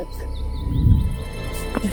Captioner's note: whoosh